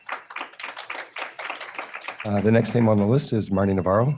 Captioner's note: attendees clapping